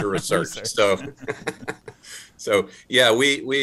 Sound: laughs

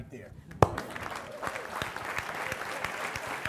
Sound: applause

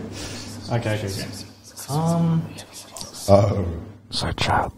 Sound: loud whispering

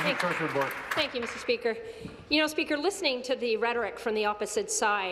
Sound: applause

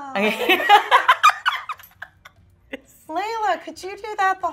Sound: laughing

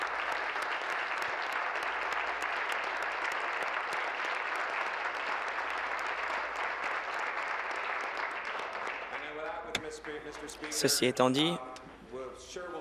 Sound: applause

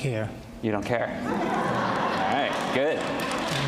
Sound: audience laughs

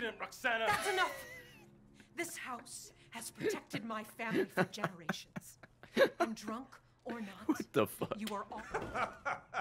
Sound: laughs

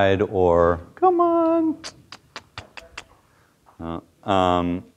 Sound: clicks tongue

